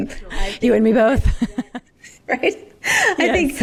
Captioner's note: laughs